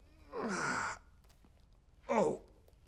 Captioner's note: man grunts